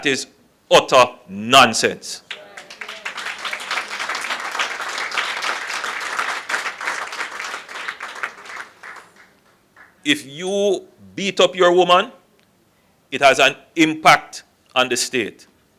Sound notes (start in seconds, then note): 2.2 applause